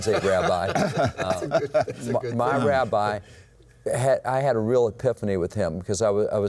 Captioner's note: laughter